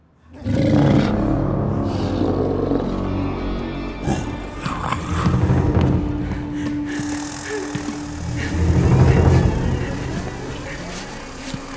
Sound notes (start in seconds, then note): 0.3 animal snarl